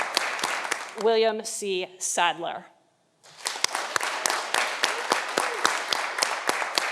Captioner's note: audience applauding